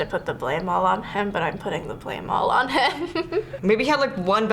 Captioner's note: laughs